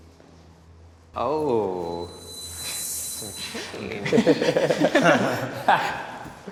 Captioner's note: interviewees laughing